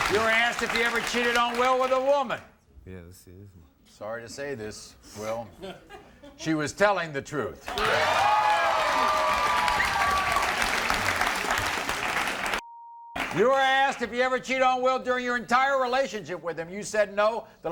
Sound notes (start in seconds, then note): 7.6 crowd cheering; 12.6 beep